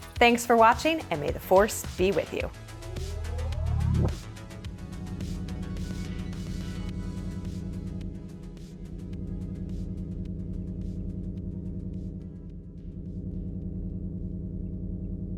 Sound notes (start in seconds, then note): 3.0 space ship engine starts